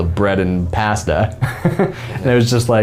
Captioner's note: men laughing